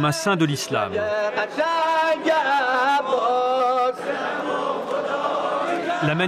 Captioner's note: Arabic spoken language